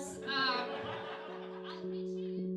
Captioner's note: laughing